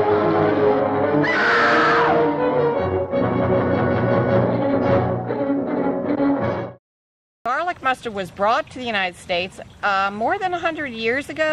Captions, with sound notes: (ominous music) (screaming) garlic mustard was brought to the United States more than a hundred years ago